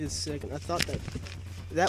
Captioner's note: paper ruffeling